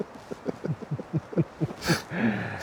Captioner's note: laughter